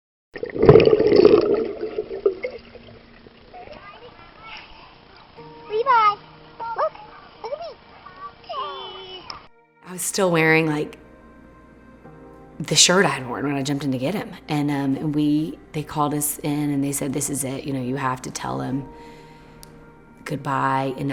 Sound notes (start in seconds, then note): 0.8 water rippling